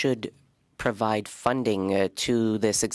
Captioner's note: speaking French